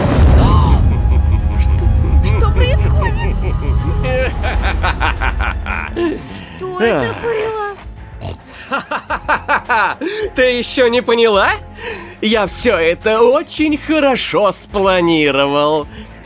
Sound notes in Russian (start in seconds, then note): 3.6 злодейский смех; 8.2 очень удивлённый хрюк; 8.5 сумашедший смех